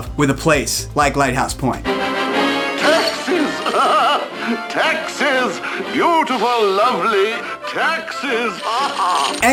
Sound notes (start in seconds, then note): 2.5 ceremonious music; 7.3 laughing